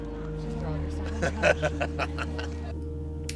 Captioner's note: laughing